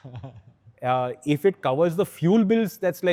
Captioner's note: chuckles